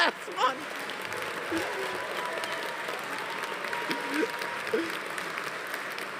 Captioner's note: audience applauding; audience cheering